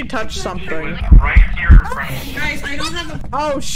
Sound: eerie breathing in ears; screams

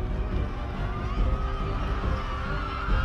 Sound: crowd cheering

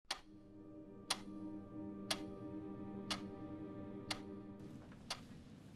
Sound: clock ticking

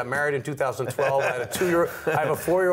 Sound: laughter

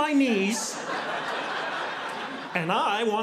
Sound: audience laughing

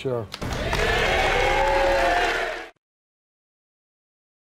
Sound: audience cheers

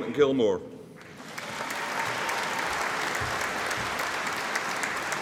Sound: audience applauding

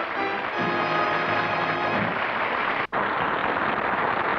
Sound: applause

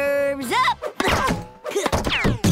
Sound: groaning

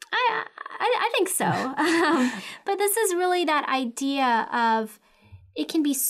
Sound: laugh

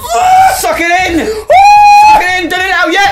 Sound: screams

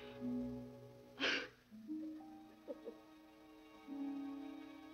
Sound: Nadya crying; gentle music

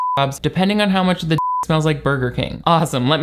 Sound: beep

